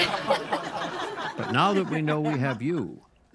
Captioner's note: all laugh